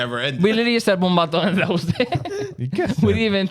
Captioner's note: speaking In Foreign Language